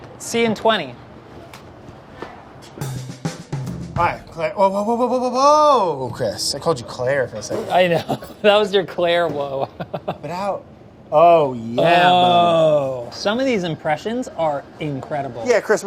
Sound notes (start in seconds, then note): 2.7 upbeat percussive music; 9.4 chuckles